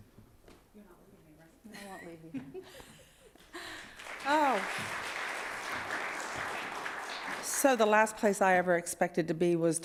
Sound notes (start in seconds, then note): 1.5 speaking faintly; 2.3 laughing; 3.6 audience applauding